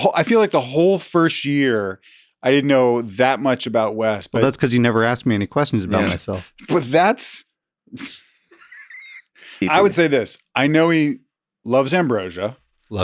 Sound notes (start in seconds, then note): 5.9 laughs; 9.5 laughs